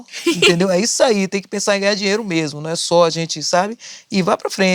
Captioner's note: giggles